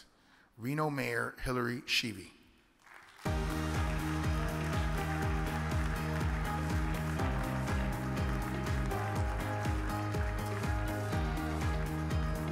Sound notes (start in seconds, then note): 2.8 audience applauds; 3.2 upbeat music